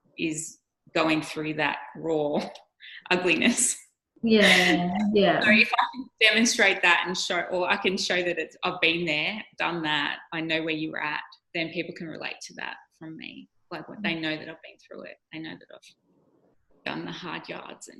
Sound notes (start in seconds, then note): 4.3 microphone cutting out